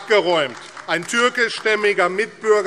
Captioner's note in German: Beifall AfD